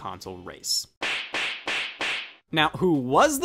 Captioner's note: knee slapping